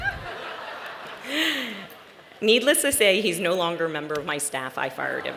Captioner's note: laughter